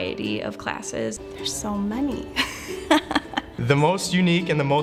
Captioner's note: laughs